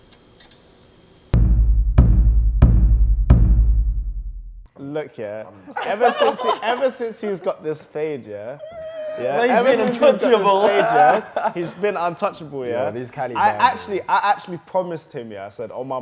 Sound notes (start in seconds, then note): 1.3 drum beats; 5.5 group laughs